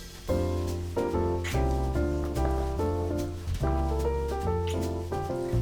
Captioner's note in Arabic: أصوات التقبيل; ترانيم عيد الميلاد; أصوات التقبيل